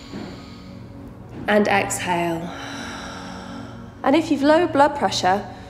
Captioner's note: heavy breathing